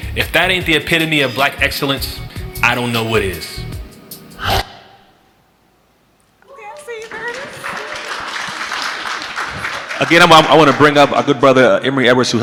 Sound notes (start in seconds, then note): 8.3 audience clapping